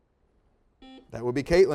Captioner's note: beeps